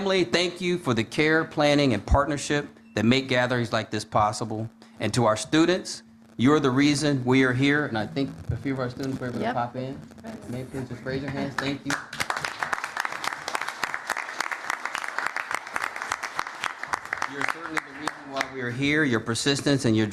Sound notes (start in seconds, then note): 15.1 applause